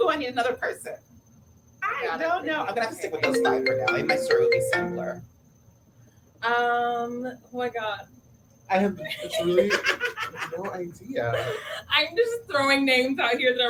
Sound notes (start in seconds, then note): 3.2 phone ringing